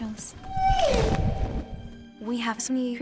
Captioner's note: thestral wailing